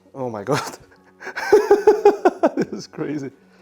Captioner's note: laughs